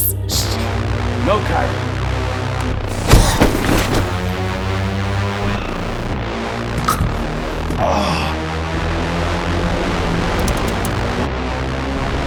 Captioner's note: crashing